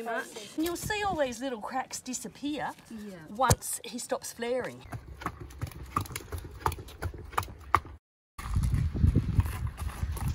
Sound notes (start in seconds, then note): 4.4 hooves clopping